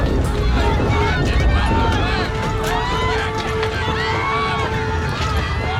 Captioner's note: chaos / screaming